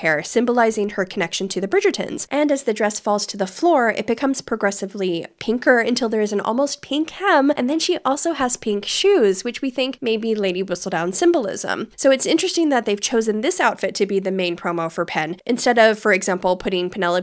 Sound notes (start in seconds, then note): none